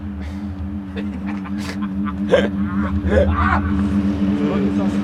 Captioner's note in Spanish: Karrigan se ríe